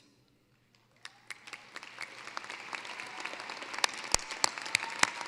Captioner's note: cheering, applause